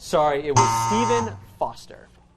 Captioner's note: buzzing